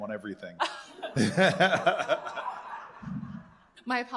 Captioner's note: laughter